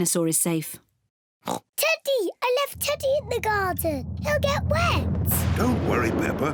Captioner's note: oinks